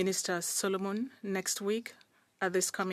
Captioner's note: speaking French